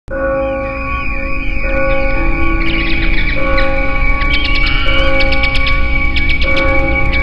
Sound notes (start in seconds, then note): 0.1 bells chiming; 0.4 bats screeching